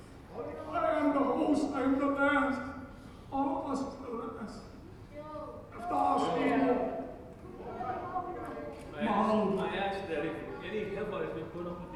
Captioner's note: foreign Language Spoken